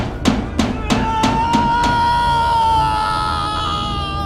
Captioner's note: Mark screaming